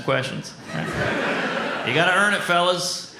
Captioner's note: audience laughs